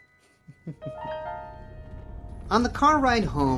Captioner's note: Roman laughs